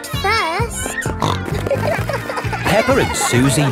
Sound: snorting

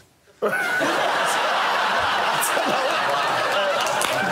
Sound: laughter; applause

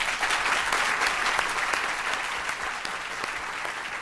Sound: applause

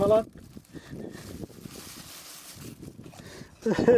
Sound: wind sound and the rustling of the bag; we laugh

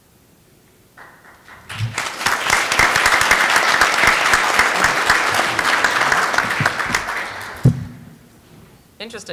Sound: applause

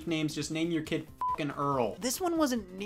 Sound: beep

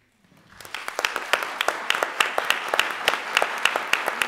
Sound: audience clapping

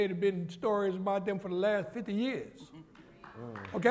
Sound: applause

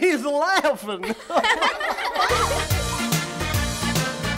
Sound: laughter

